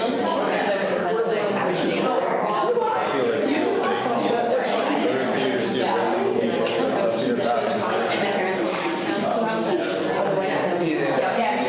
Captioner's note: students chatter